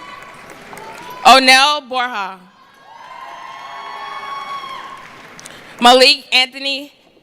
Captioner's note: cheering